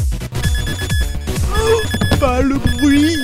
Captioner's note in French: bruit strident